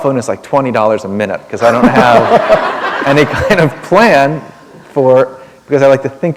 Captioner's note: laughter